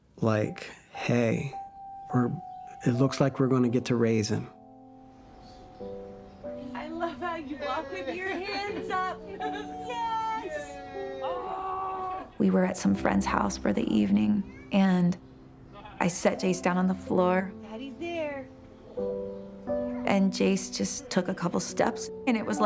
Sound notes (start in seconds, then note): 5.2 soft music; 11.0 laughter